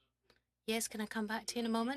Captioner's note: speaking French